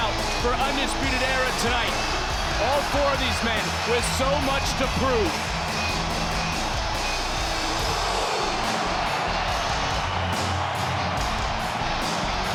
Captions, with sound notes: for Undisputed Era tonight. All four of these men with so much to prove. (upbeat music) (audience cheers)